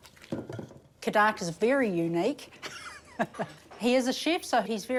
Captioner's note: chuckles